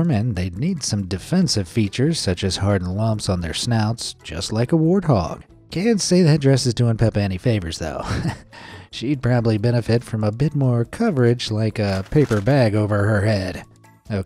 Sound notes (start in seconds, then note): 7.9 narrator chuckles